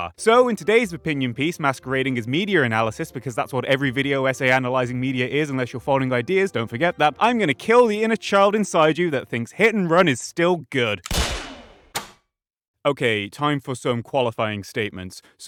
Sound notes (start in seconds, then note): 11.0 gunshot and critical hit